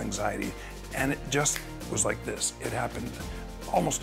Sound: snaps fingers

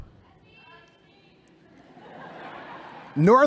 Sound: laughter

